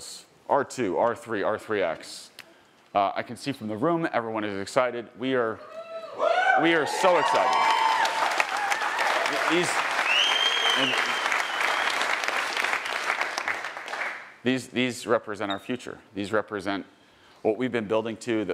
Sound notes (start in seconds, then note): 5.7 attendees cheering; 7.8 attendees cheering and applauding; 10.0 attendee whistling